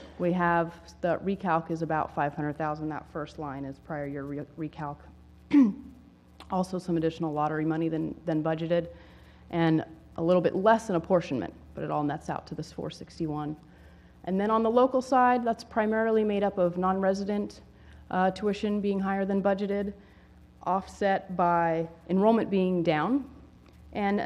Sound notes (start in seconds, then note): 5.5 cough